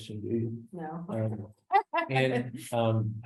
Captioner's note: laughs